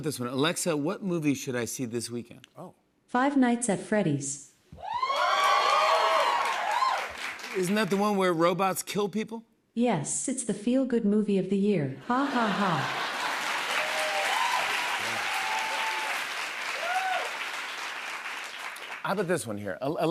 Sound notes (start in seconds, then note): 4.8 cheers and applause; 12.2 cheers and applause